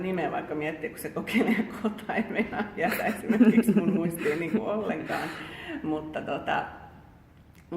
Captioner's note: laughter